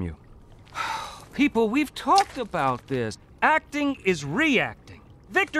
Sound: sighs

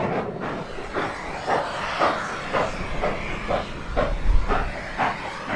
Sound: slow chugging; safety valves hissing

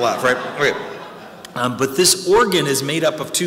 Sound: audience laughing

